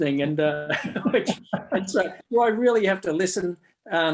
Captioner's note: both chuckle